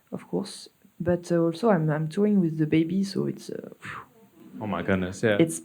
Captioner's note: sighs